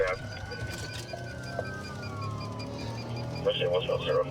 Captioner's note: sirens wailing